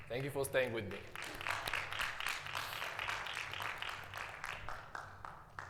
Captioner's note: audience applauding